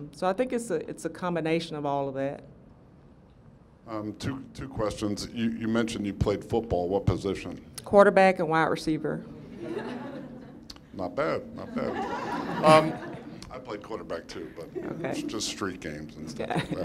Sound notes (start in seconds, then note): 9.4 laughter